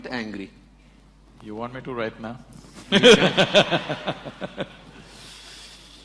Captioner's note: laughs